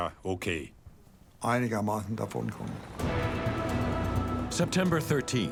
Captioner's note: speaking in foreign language